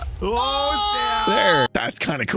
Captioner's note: explosions; shouting in crescendo